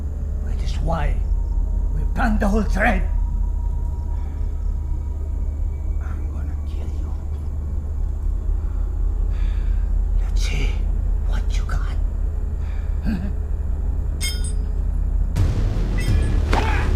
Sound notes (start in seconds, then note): 14.1 metal clinking; 15.4 dramatic music; 16.7 Monte grunts